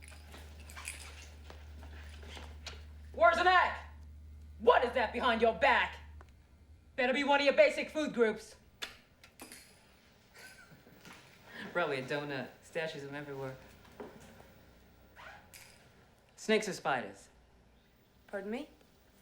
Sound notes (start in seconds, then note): 3.1 yelling; 10.3 chuckling